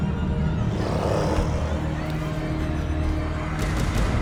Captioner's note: growling